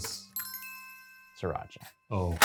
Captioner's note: list chimes